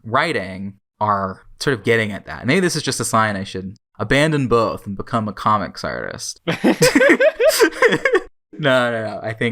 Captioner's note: both laugh